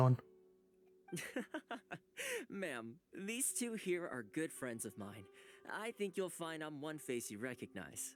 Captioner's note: laughs